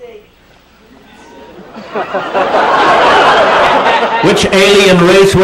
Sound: "Oohs" and laughter from audience

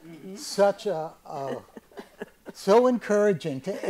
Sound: chuckles

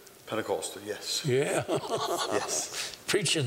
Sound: laughter

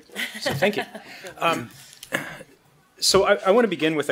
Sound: laughs

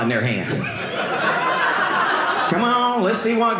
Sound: audience laughing

